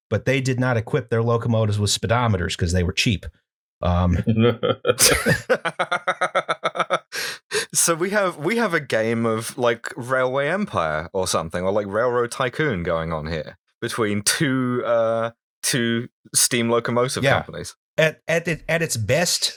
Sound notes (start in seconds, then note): 4.1 laughter